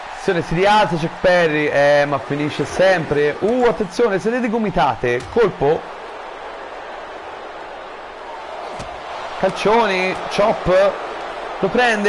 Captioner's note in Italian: Applauso